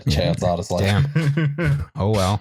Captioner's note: chuckles